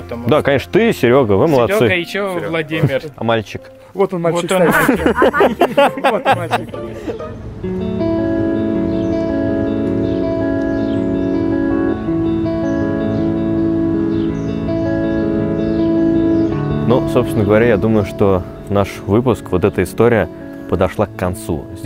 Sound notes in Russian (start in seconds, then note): 4.5 смех